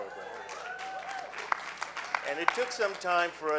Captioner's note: clapping